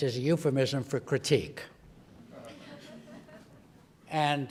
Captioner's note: laugh